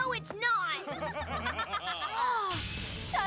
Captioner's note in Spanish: risas